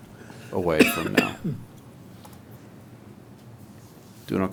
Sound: man coughing

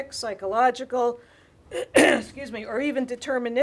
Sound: clearing throat

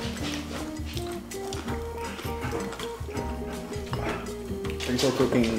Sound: mouth clacking

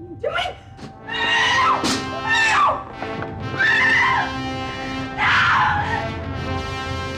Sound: dramatic music; Michelle screaming

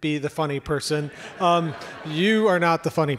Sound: audience laughs

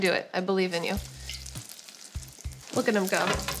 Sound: oil sizzles

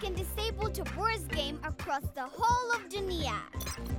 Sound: beeping

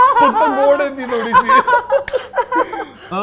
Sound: chuckles; laughter

